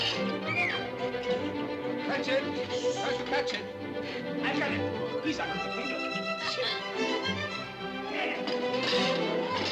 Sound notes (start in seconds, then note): 6.2 Klara laughing